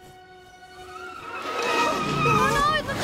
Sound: tyres screeching

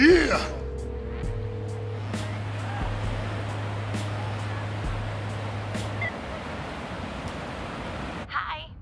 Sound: phone tone

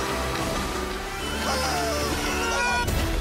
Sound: men yelling

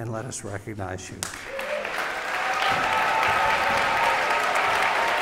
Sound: applause and cheering

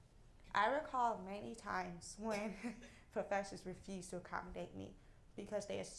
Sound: laugh

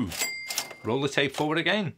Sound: cash register ringing

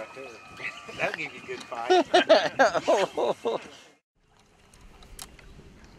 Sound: laughter

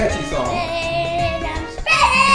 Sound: voiceover

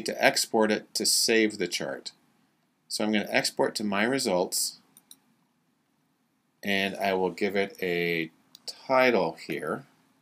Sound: click

